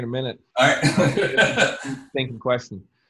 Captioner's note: laughs